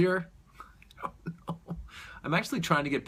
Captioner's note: chuckles